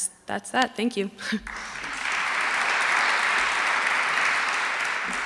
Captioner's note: applause